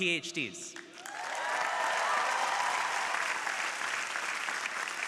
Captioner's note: crowd applauding